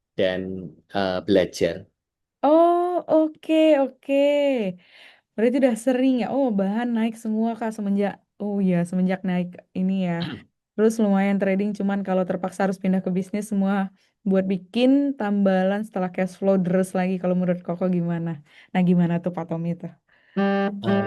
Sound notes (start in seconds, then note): 10.2 berdehem